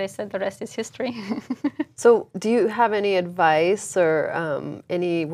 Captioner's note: laugh